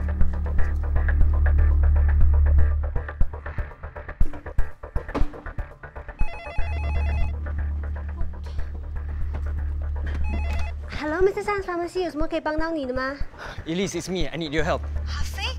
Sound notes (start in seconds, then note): 6.2 phone rings; 11.4 in Mandarin